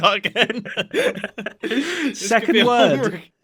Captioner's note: both laugh; laughs